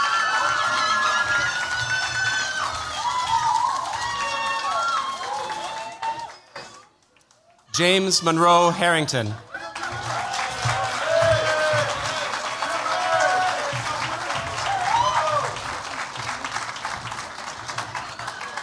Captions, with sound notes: James Monroe Harrington. [CHEERS, APPLAUSE]